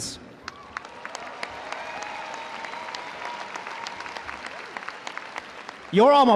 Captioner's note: audience cheering; audience applauding